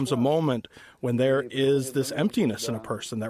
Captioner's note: speaking non-english